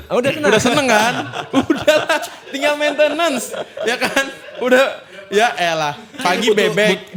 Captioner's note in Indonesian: tertawa